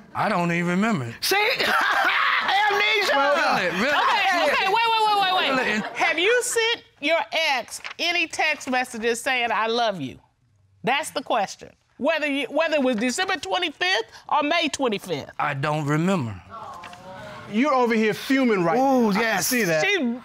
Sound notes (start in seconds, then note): 1.4 laughs